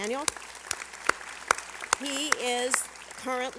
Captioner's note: applause